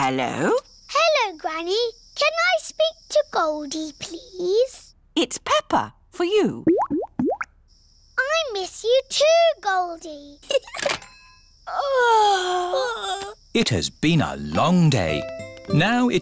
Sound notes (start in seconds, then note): 6.6 bubbling; 10.4 giggles; 11.7 both yawn